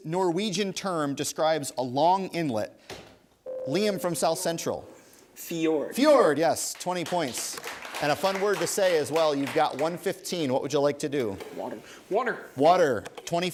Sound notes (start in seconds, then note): 3.5 ding; 6.6 applause